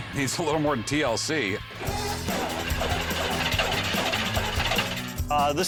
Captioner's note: engine choking